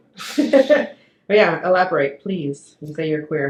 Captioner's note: laughs